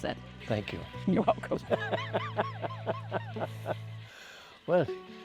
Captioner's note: laughter